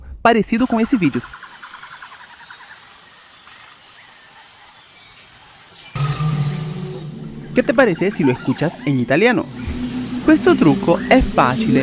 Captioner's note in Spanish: audio doblado en Italiano